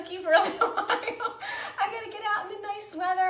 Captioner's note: laughs